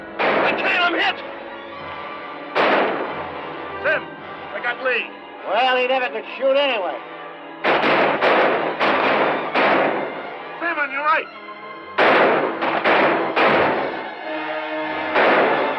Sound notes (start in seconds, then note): 7.6 gunfire; 11.2 tense music continues